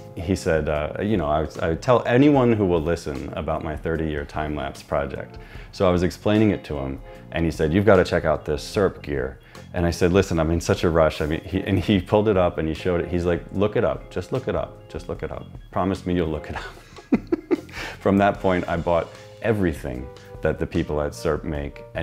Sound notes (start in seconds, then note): 16.5 laughs